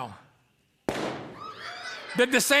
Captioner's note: balloon pops; shrieks of startled delight